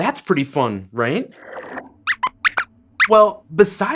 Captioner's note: squeaks squeaks